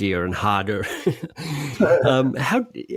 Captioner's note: laughing